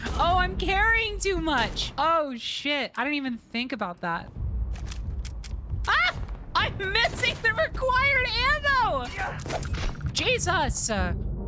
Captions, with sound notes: Oh, I'm carrying too much! Oh, shit. I didn't even think about that. [Gun Clicks Empty] Ah! I’m missing the required ammo! Jesus!